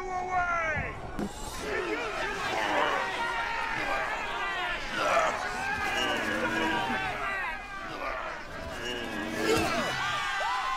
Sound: cheering and grunting

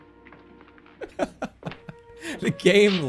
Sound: laughs

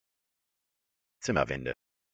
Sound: fast Pronunciation

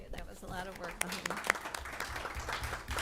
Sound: applause

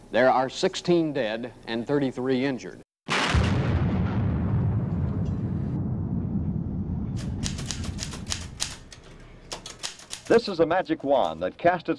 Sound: extra loud sound of gunshot

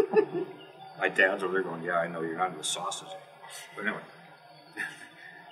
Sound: laugh

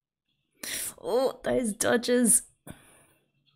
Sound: sharp inhale

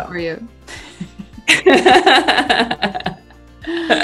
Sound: both laugh

